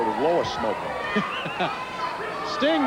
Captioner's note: Tony laughing